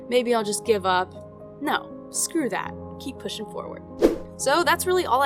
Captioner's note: swoosh sound